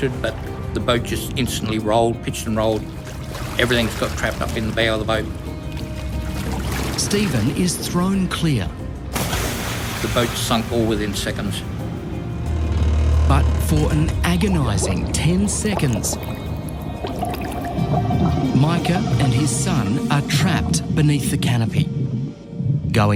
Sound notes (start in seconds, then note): 16.8 water bubbling